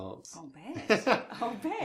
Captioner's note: chuckles